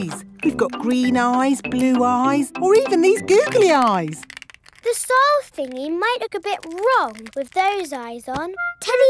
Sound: none

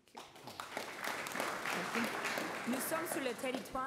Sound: applause

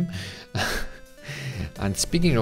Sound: laughs

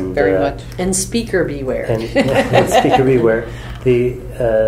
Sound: laughs

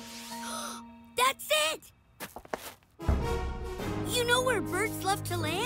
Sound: gasps

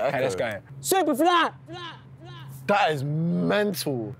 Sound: echoing

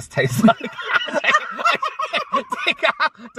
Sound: shocked Laughter

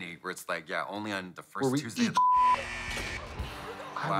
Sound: beep

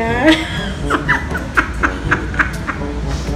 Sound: laughing out loud

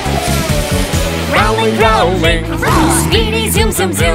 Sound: roar!

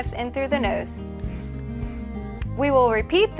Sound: sniffs

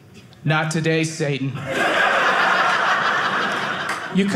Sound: audience laughing

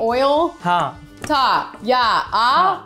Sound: speaking in Hindi

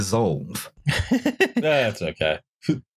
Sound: laughter

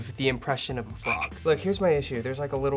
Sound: frog croaks

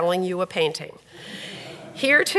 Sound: audience laughs

